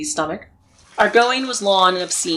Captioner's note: gurgling, flowing water sound